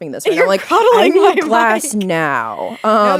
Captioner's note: laughing